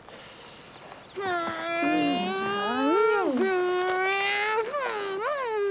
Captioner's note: boys imitating engines